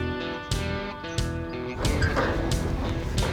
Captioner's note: trailer squeaking